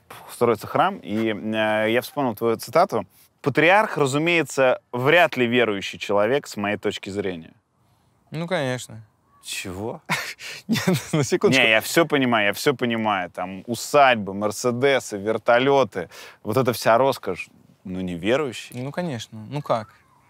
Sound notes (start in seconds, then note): 10.0 chuckles